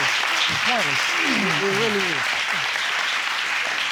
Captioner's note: crowd clapping